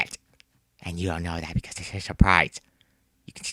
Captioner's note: whispering